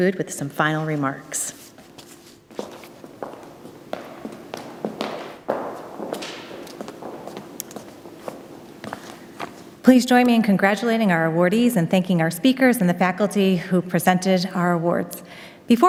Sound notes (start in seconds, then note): 3.6 footsteps